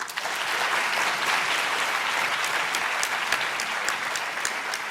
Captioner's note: audience applauding